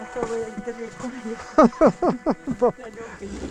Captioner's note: laughs